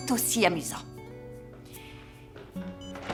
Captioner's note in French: cloches qui sonnent; bips de téléphone